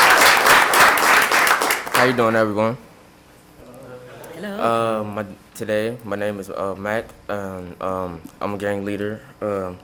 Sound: applause

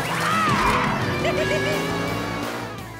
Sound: laughing

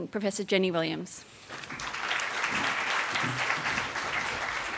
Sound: applause

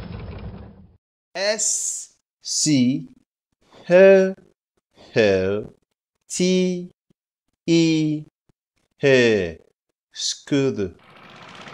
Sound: scooter Sound

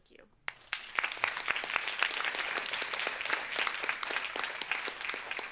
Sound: all applauding

